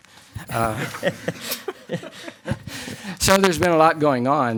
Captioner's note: laughing